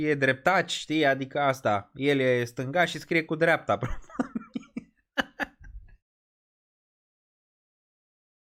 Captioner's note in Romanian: Râsete